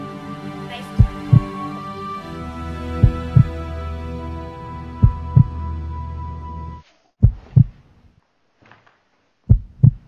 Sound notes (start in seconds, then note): 0.9 heartbeat